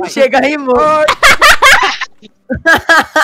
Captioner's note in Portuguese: Todos rindo; rindo